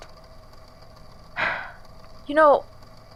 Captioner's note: sighs